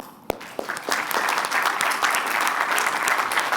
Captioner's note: applause